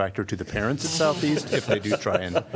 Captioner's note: laughter